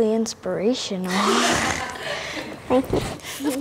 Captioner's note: all laugh